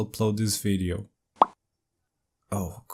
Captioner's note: pop